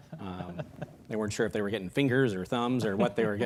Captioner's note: laughing